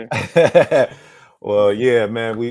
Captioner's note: laughs